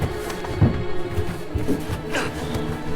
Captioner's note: grunts and slaps